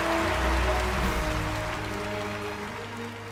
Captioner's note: cheers and applause